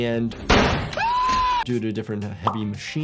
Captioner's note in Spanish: gritar